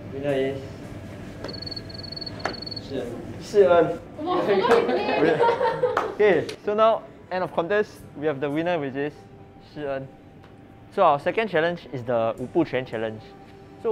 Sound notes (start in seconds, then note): 4.3 laughs